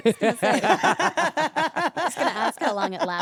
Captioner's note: trio laughing